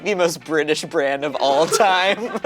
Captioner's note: laughing